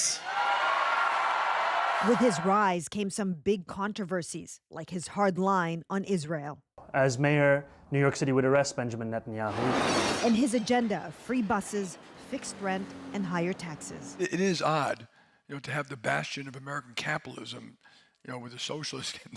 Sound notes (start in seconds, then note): 3.0 cheers and Applause